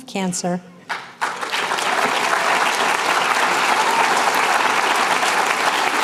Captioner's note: applause